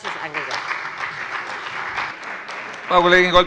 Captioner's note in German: Beifall bei dem BÜNDNIS 90/DIE GRÜNEN und der CDU